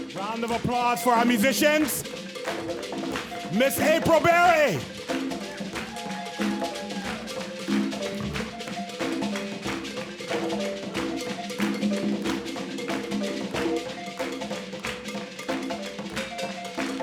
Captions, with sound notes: Round of applause for our musicians. Ms. April Berry! (audience claps) (upbeat balafon music continues)